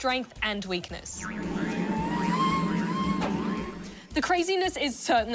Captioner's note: ball squeals